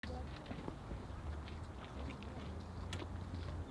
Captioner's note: footsteps